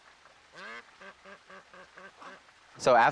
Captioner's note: ducks quacking